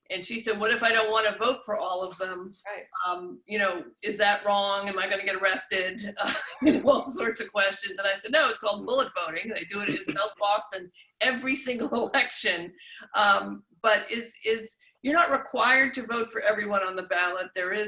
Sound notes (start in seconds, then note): 6.0 laughs